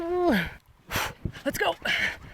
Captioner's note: exhales